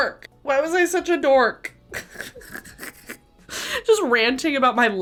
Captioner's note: snorts